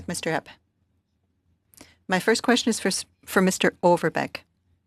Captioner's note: speaking French